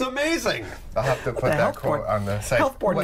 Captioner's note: laughter